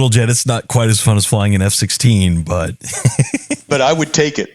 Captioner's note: laugh